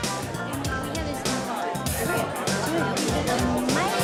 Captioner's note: people chatter